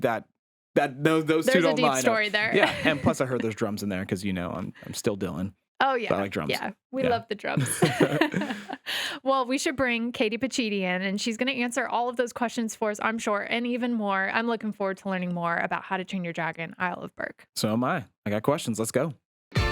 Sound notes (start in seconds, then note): 7.6 both chuckling